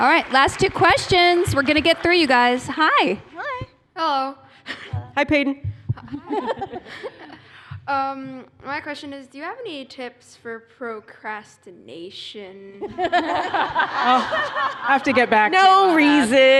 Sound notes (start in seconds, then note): 6.0 laughter; 12.8 laughter